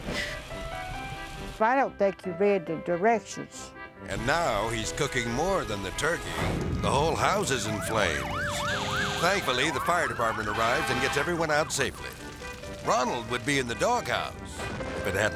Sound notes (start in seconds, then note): 0.1 melodic music; 6.5 flame exploding; 8.2 sirens blaring